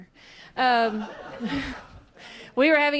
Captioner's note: laughs